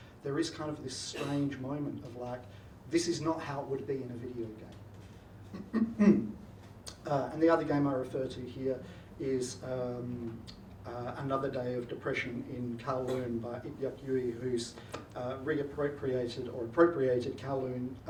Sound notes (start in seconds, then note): 5.5 clears throat